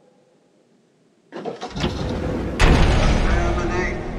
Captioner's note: mechanical noise of door opening